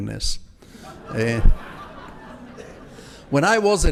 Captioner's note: audience laughs